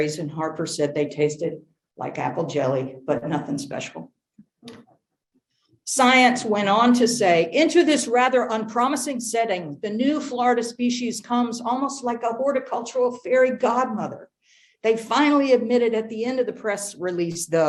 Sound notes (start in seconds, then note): none